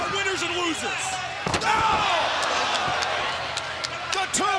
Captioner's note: crowd cheering; body thudding